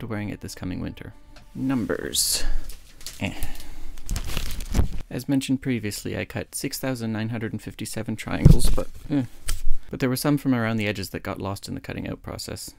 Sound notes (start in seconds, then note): 2.3 rustling sound